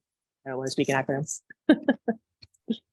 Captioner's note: chuckles